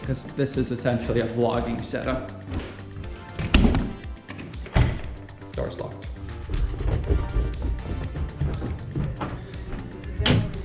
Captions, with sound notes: cause this is essentially a vlogging setup. Door's locked. (footsteps) (techno music)